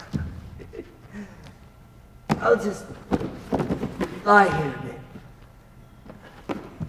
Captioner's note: gasps for air